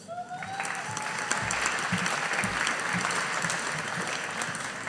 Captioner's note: audience applauding